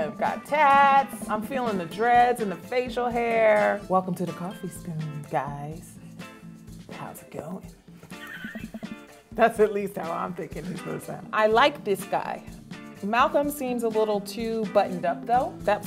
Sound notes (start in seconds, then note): 8.1 laughs